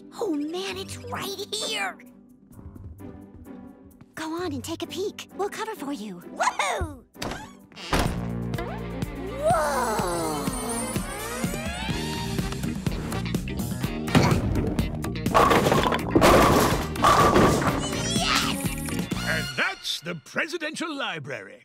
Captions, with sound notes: Oh, man, it's right here. [quirky music] - Go on and take a peek. We'll cover for you. - Whoo-hoo! Whoa. [upbeat funk music] [pins clattering] Yes! - And that's the Presidential Library.